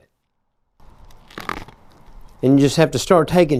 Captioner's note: roof crunching